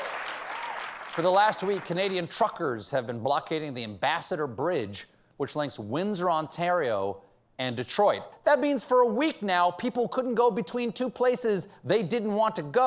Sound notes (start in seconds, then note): 0.0 applause